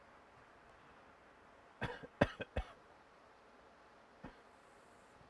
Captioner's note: Mercer coughs